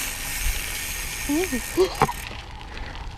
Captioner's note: laughs